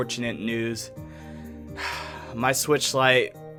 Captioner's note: sighs